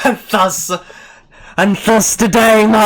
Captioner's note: big inhale